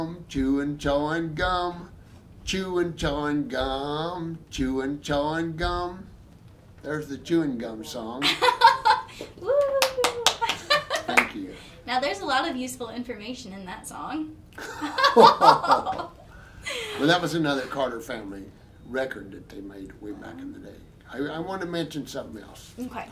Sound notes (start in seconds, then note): 9.4 laughing; 9.8 applauding; 14.5 both laughing